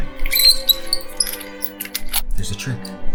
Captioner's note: squeaking